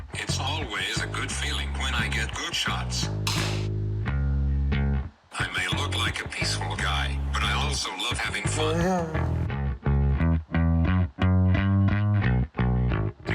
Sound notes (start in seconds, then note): 3.3 rifle fires; 8.7 chuckles